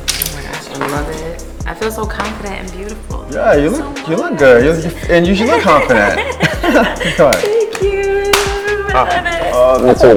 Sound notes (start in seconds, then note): 5.2 both laugh